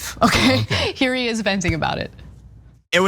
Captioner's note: laugh